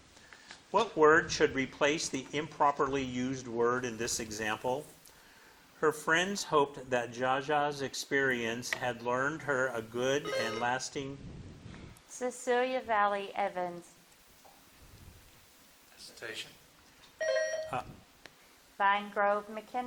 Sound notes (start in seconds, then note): 10.2 bell dinging; 17.2 bell dinging